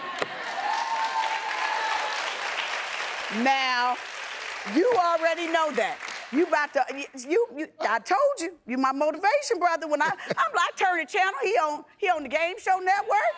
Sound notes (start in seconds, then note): 0.0 audience applauding and cheering; 10.0 chuckles